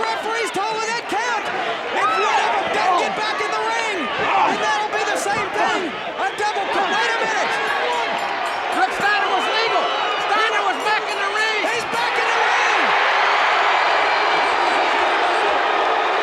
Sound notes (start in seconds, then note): 6.8 bell rings; 12.9 audience cheers